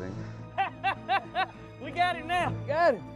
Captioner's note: laughing